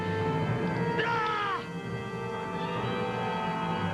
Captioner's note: screams